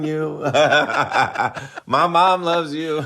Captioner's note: laughter